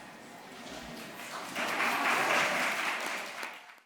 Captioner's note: applause